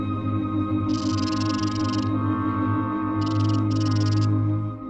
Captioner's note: snake rattling